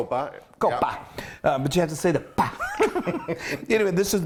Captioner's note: laughs